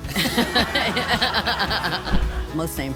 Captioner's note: audience laughing